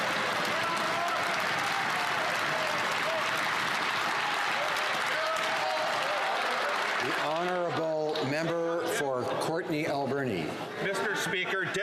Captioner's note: some Applause